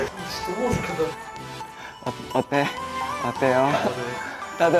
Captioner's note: shy footsteps